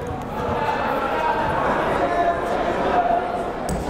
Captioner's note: yelling